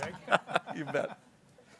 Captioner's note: people laughing